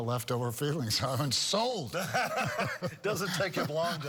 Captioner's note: both laughing